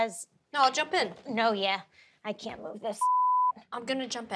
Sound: beep

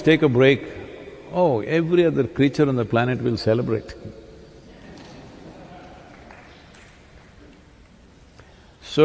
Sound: laughter

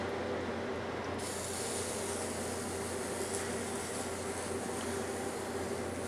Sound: oil sizzling

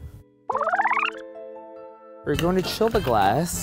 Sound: film rewinding

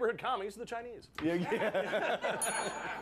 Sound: scattered laughs

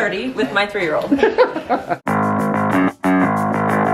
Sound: laughs; upbeat music

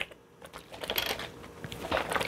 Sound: shake shake

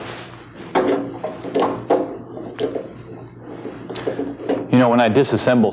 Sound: dull metallic scraping

